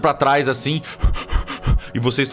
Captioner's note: heavy breathing